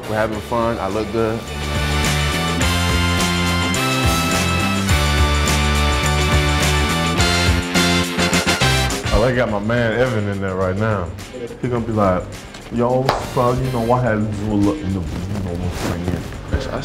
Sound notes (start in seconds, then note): 2.6 lively music; 9.0 voiceover